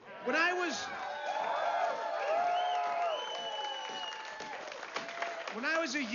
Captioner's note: vítores y aplausos